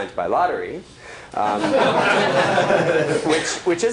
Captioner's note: laughter